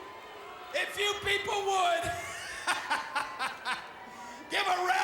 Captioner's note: laughs